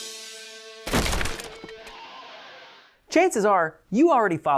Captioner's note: cracking sound